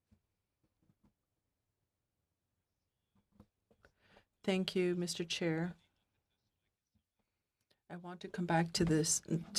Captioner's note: speaking in French